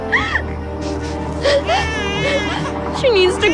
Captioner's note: baby crying